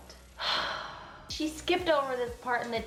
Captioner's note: sighing